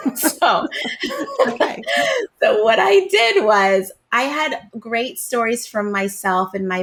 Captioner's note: laughs